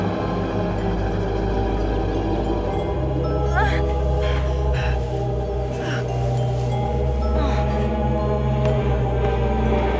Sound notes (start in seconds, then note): 3.4 Amber cries out; 7.0 ominous music